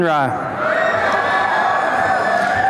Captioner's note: applause and cheering